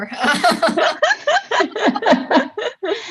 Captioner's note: laughing